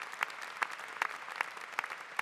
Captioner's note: applause